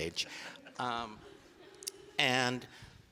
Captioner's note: audience laughing